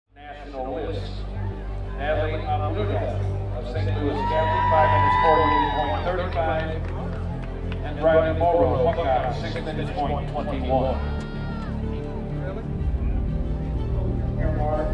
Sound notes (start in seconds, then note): 3.9 audience cheers; 12.0 soft dramatic music